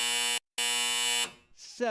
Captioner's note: buzzer